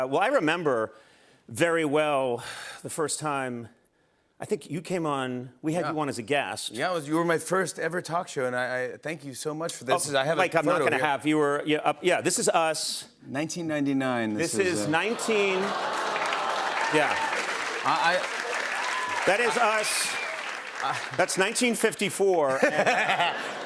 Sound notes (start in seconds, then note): 15.6 audience awws; 22.5 laughs